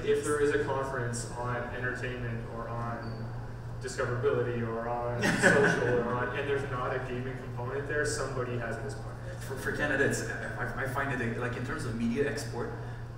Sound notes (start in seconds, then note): 5.2 laughs